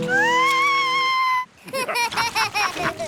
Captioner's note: shrieks; laughter